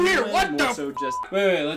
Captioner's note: beeps